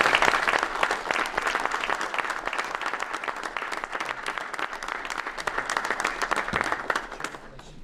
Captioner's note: applause